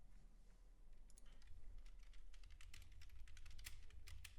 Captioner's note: clicking